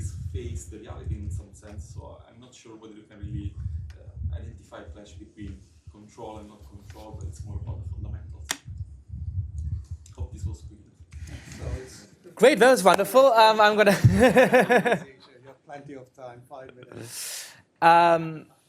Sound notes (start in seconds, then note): 13.9 laughter